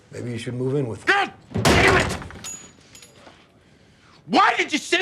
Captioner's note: hitting table